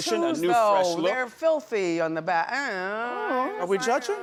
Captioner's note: groans